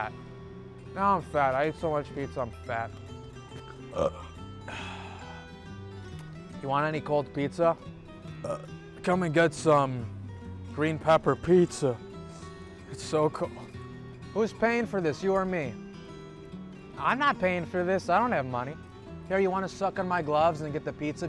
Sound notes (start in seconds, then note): 6.1 burps